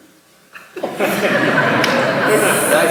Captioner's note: laughter